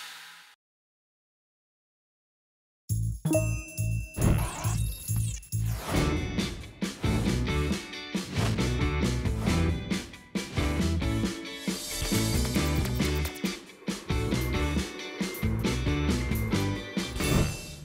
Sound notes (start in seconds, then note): 3.2 notification chimes